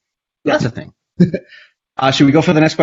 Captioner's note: laughs